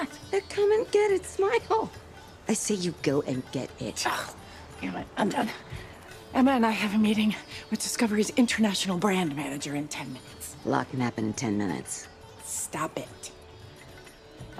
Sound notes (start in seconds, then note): 4.0 scoffs